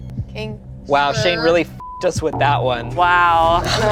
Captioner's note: beeps